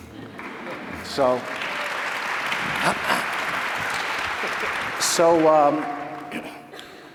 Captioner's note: applause